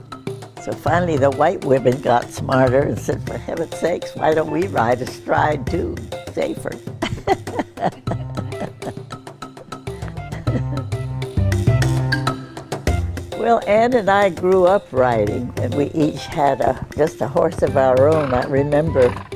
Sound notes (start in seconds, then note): 6.9 she laughs